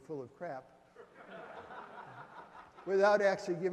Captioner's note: audience laughs